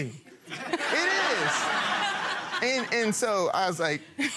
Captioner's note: people laughing